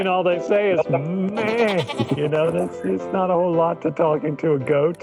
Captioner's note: goat bleat